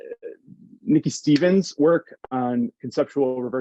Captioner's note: hands clapping